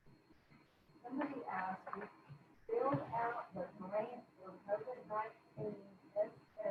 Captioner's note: faintly speaking